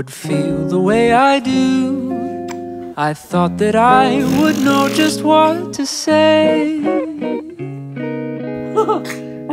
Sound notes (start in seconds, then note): 4.0 blows raspberries